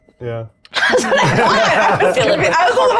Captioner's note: chuckling